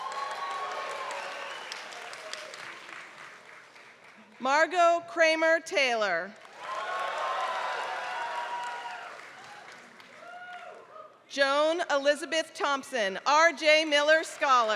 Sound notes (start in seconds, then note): 0.0 applause; 6.3 applause